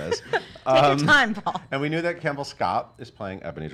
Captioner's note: laughing